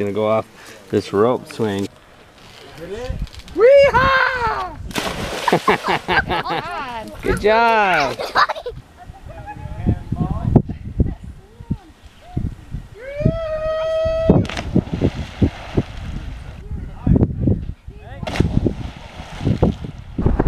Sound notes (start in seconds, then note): 2.2 rope creaks; 4.9 splash; 5.4 laughs; 7.9 child laughs; 13.2 cheer; 14.4 splash; 18.2 splash